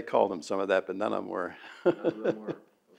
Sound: laughs

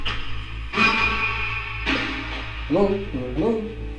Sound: radio noise reverberating

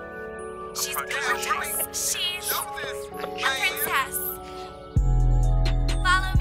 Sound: a few different videos playing simultaneously

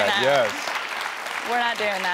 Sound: audience applauding

